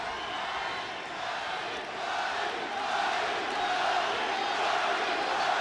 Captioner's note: crowd chanting Roddy